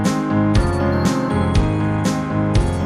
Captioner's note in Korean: 띵꽁띵꽁